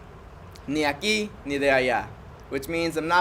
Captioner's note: speaking Spanish